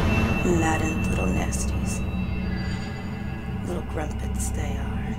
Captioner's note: speaking in foreign language